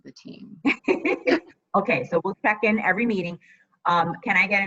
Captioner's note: laughs